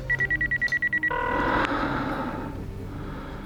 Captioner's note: line ringing